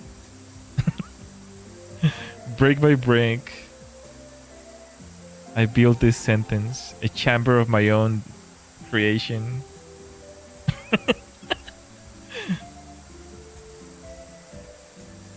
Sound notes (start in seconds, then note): 10.7 laughter